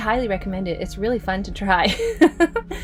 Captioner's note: laughs